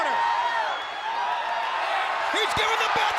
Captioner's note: audience cheering